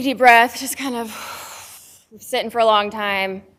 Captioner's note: exhale